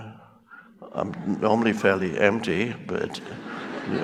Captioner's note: crowd laughs